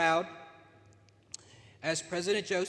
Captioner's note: smacks lips